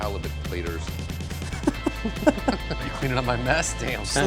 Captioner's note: both laughing